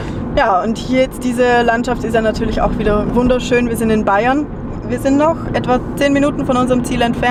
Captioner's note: none